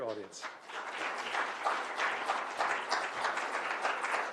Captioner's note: applause